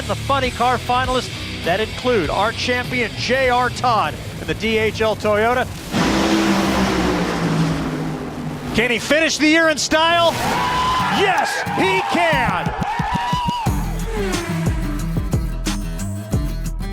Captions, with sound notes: the funny car finalists, that include our champion, J.R. Todd, in the DHL Toyota. [Racing engines] Can he finish the year in style? Yes, he can! [Cheering] [Upbeat music]